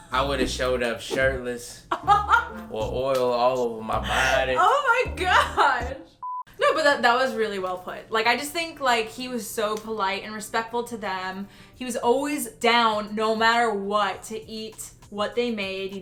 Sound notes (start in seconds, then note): 6.2 beep